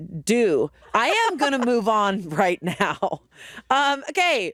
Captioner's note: chuckling